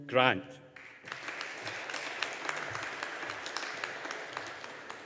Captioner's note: audience applauding